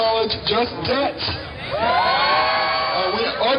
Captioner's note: cheering